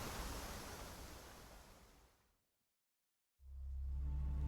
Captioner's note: silence